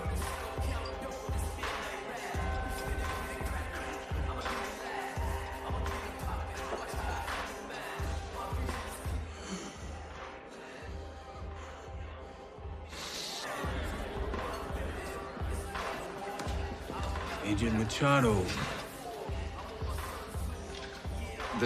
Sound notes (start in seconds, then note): 0.0 hip hop playing; 11.1 strained breathing